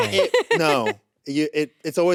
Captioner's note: laughs